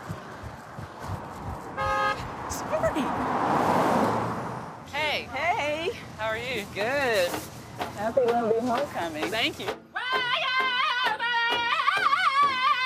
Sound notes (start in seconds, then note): 1.7 car honking; 10.1 crowd singing